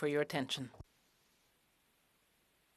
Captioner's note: speaking french